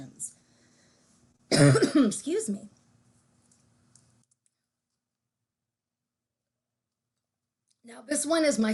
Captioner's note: coughs